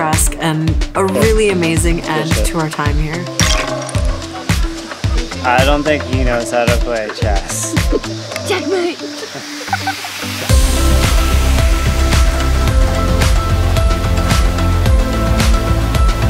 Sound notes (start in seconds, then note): 9.1 laughing